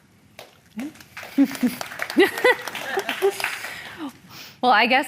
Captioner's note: audience applauding